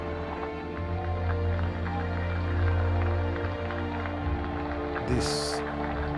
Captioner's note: cheers and applause